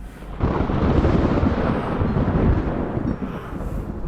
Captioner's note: lightning strikes loudly